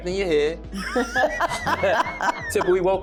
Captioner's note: laughing